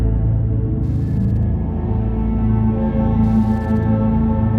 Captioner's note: static flickering